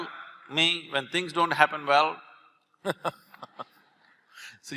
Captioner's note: Karan Johar laughs